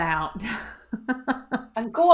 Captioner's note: laughs